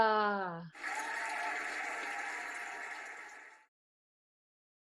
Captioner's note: cheering and applauding